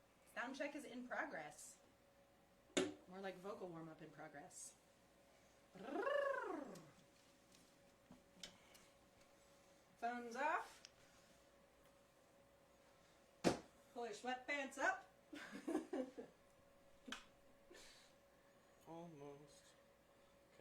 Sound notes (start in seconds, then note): 15.3 laughter